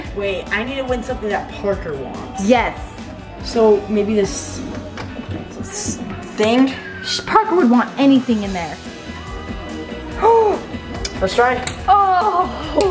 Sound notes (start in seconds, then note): 10.3 gasping